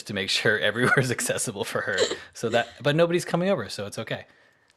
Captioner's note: laughs